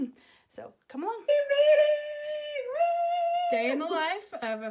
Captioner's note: shouting